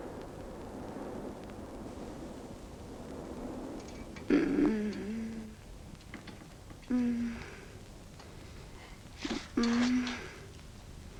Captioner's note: groan of pain